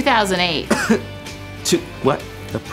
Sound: cough

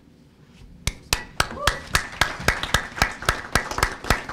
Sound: applause

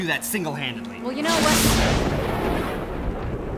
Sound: lighting & Thunder

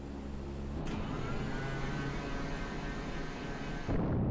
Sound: hatch doors whirring; atomic bomb rumbling

